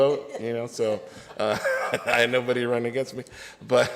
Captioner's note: laughs